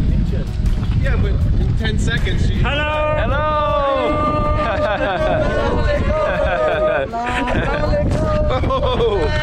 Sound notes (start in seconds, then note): 4.2 laughing; 6.4 speaking foreign language